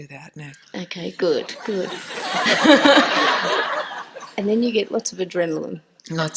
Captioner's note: laughter